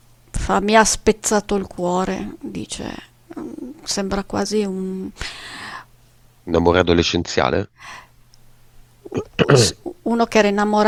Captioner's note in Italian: tosse; schiarire la voce